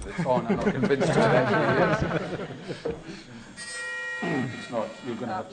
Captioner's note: laughter